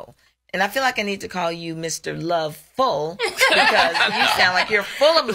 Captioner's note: laughs